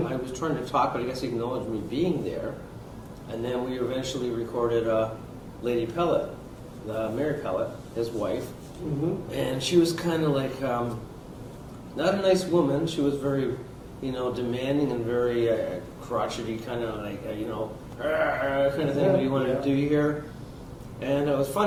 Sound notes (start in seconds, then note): 18.0 groans